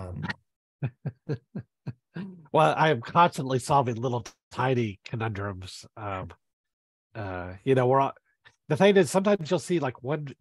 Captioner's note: laughs